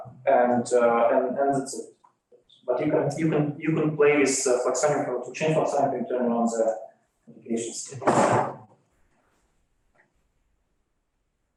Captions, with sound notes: and you can, but you can play with the fluxonium how to change something in the notification stage. (chair bangs)